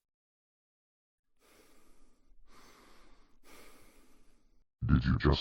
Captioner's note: Lucario Breathes in and out